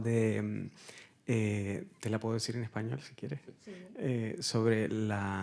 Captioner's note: speaking in Spanish